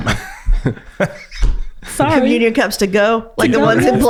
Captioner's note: everyone laughs